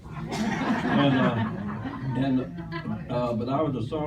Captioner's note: laughter